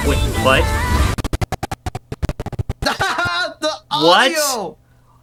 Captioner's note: audio sputters and dies